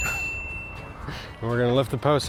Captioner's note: check mark dings